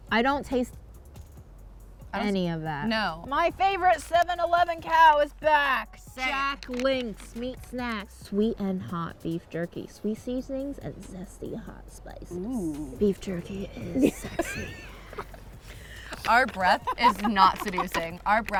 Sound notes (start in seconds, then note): 14.2 laughs